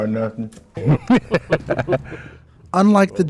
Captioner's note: laughter